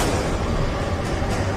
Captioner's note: gun shot